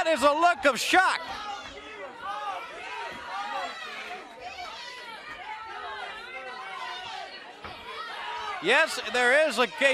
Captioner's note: crowd chatter